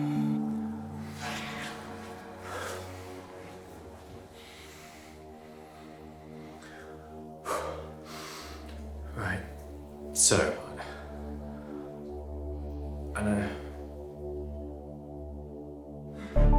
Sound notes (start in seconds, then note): 1.3 ominous music; 7.7 man sighs